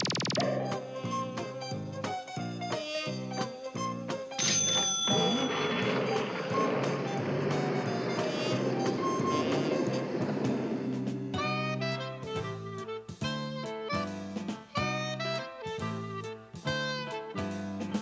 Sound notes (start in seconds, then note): 4.3 cash register rings; 4.9 engine starts